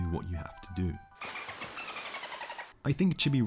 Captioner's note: dolphin noises